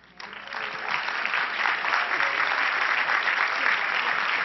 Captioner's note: crowd applauding